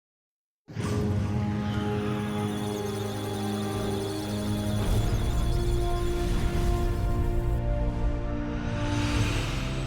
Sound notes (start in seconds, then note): 1.2 musical tones; 2.1 electronic sounds of data